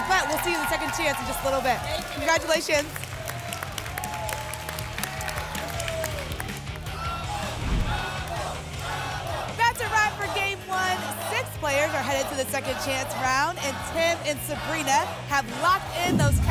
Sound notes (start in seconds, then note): 4.2 applause and cheering; 6.9 audience chanting "double!"